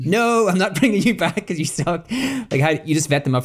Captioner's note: laughs